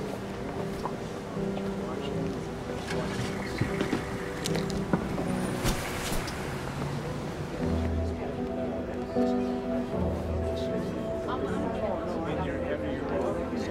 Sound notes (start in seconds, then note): 3.0 engine starting